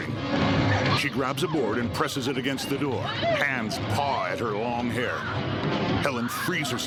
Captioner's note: Helen whimpering